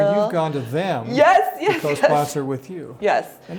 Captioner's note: laughs